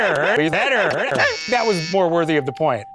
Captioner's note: everyone laughing; buzzer